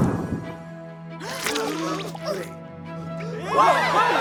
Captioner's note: gasps; cheering